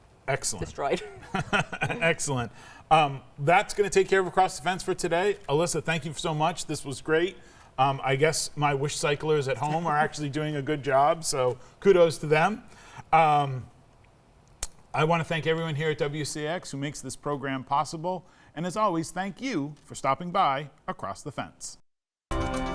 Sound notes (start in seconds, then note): 1.0 laughs; 22.3 upbeat music